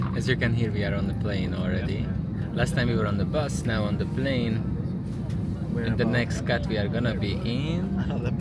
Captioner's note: traffic sound